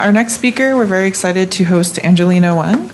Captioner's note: indistinct conversation